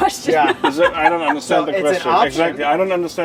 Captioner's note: woman laughs